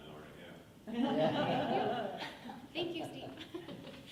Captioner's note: laughing